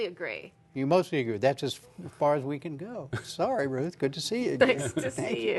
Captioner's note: laughter